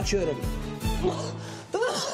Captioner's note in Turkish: Öksürük sesleri